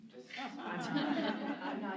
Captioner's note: laughter